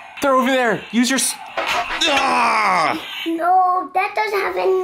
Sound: screams

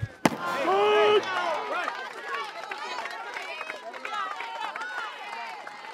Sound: crowd cheering

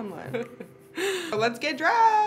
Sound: laughing

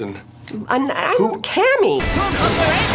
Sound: stammers at first

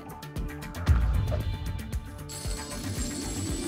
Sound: thump; coins jingling

